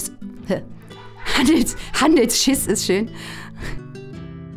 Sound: laughter

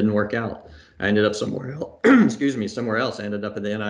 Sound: coughs

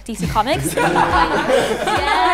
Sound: group laughs

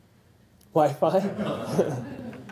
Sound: laugh

